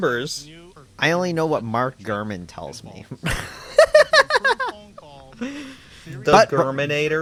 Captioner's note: laughs